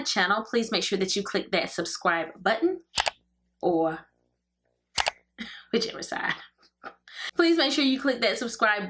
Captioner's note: mouse click